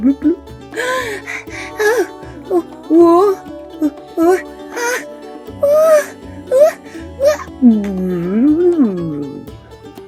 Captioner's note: puppet gasps and pants